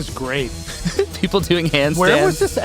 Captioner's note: laughs